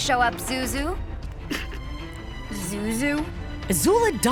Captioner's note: giggling